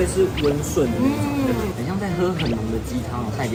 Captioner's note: chewing